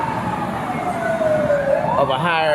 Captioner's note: police siren